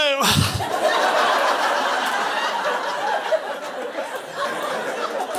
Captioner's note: audience laughing